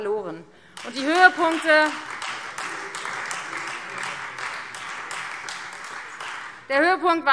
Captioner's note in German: Beifall Freie Demokraten